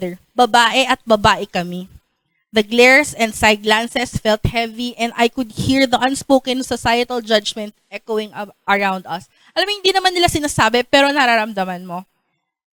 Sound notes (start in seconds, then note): none